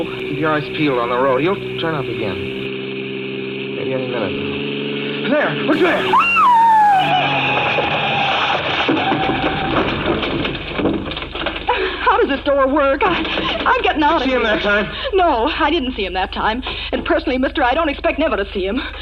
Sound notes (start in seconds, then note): 5.7 screams